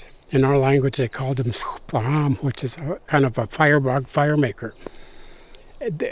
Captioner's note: non-English language spoken